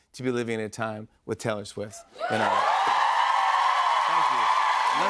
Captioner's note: cheers and applause